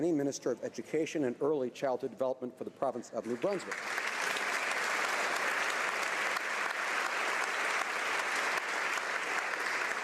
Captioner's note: applause